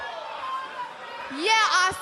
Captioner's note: fans chanting